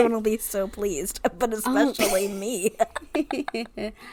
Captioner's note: laughs